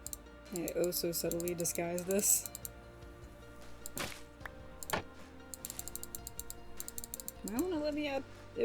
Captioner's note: clicking